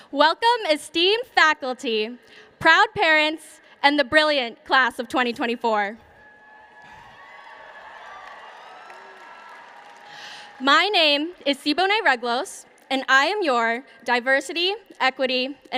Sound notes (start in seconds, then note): 6.1 cheering